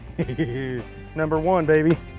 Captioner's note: laughing